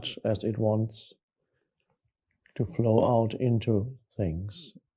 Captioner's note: none